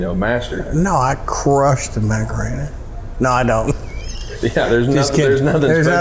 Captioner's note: laughing